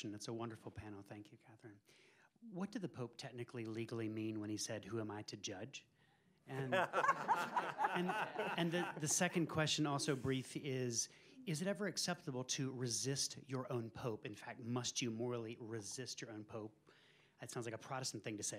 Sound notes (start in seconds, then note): 6.6 laughter